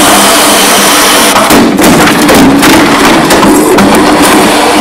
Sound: boom

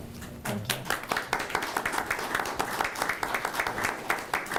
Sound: applause

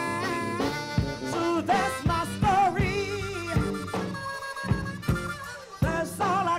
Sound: audience cheering

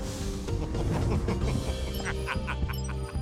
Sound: snickering

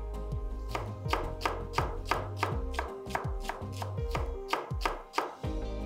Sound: chopping sound

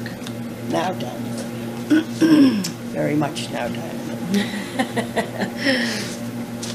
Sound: laughter

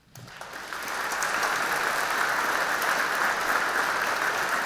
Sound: audience clapping

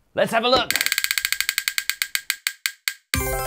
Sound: ticking

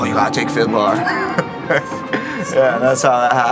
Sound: laughing

